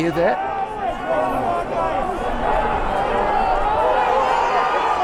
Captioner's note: crowd shouting